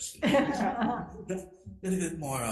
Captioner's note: laughing